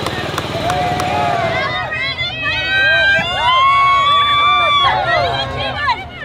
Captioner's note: cheering